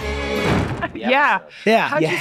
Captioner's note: door slams